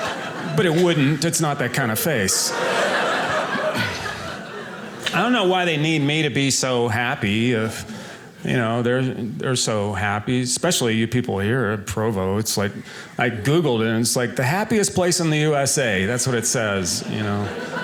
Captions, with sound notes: but it wouldn't, it's not that kinda face. (audience laughing) I don't know why they need me to be so happy, if, you know, they're so happy, especially you people here at Provo. It's like, I Googled it, and it's like, the happiest place in the U.S.A., that's what it says, you know?